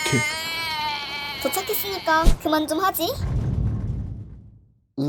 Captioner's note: Bacon vomits; Bacon vomits